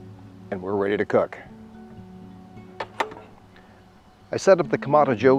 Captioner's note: lid clangs shut